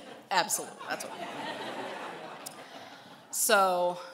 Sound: laughing

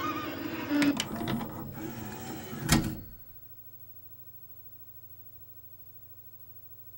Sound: disc slows and machine prepares to eject it

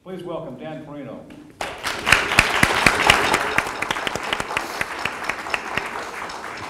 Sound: audience applause

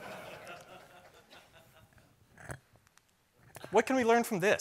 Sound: laughter

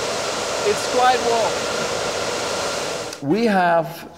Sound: fans whirring

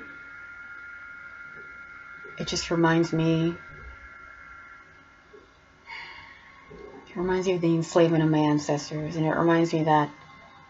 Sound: sigh

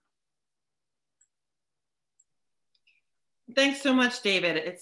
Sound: mouse clicking

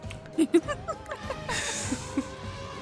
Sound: laughter

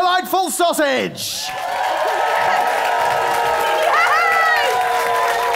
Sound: applause and cheering

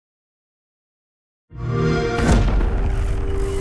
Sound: xbox sound

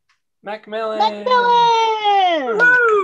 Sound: applause

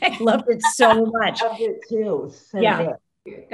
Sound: panel laughs

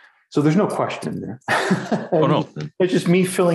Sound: laughing

